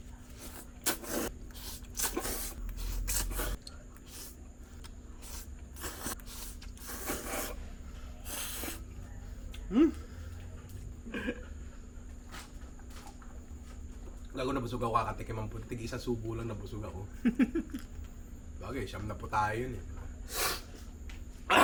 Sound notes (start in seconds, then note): 17.2 laughs